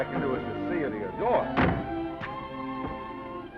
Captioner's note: car door closes